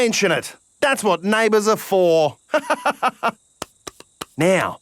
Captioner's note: laughs